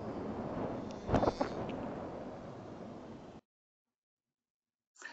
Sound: whale buzzing

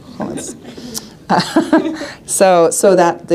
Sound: attendees laughing

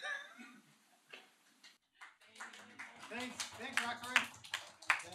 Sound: applause

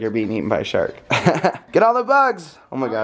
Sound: laughs

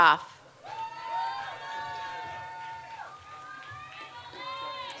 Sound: audience cheers

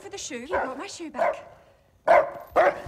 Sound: barking

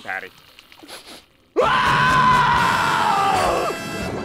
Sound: screams

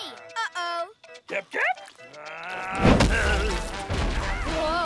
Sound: roaring

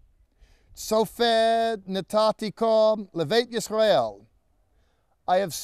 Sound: speaking in Hebrew

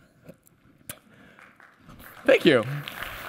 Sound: applause

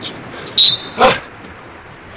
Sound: blows whistle

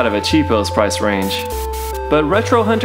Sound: static

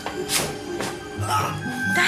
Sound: Bruce groans

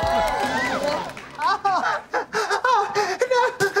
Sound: whimpering

